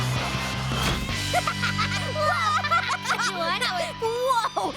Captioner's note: both laughing